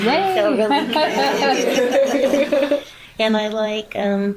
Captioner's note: teachers laughs